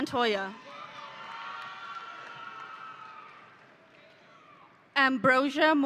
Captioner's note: audience cheering